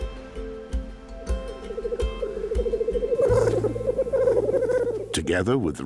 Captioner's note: bird calls